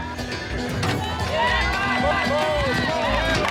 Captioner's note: cheering